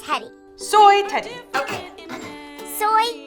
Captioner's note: speaking in a foreign language